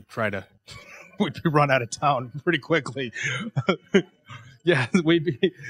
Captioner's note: laughing